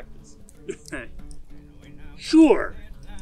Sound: Gor laughs

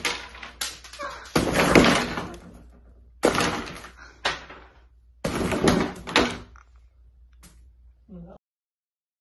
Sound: laughs; demolition noises

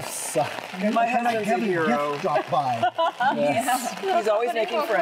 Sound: all chattering; laughing

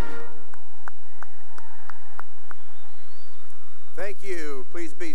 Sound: cheering and applause

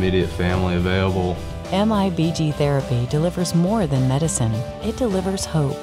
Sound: voiceover

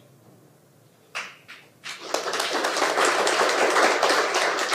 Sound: audience applauding

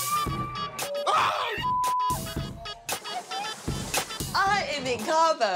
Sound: screams

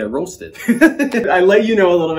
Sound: laughs

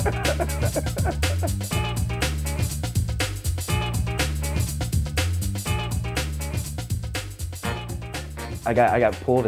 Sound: laughter

